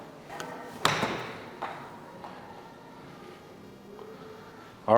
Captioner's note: golf club hits ball